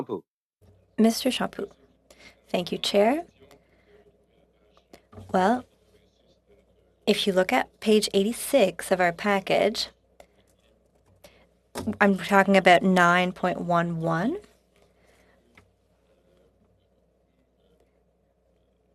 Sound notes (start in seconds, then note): 5.3 speaking French